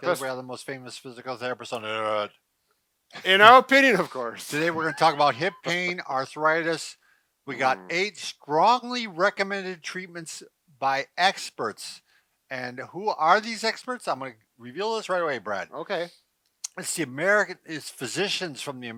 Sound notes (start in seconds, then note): 4.4 laughs